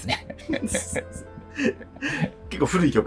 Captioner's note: laughing